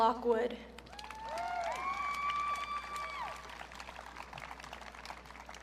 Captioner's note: audience cheering